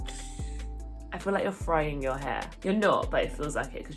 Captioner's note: sizzling